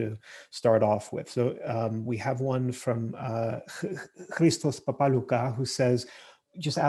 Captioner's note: murmurs